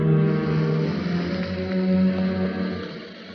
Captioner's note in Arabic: تتحرك السيارة